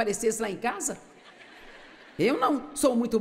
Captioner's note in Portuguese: audiência ri